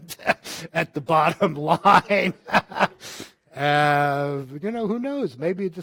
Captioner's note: laughing